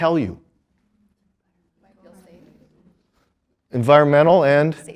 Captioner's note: students muttering